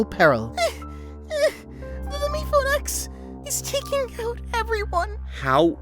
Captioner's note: panting